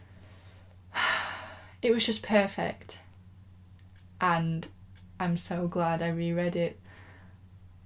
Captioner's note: sigh